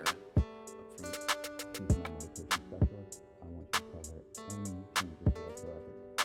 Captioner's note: Dr. Schwazer speaking softly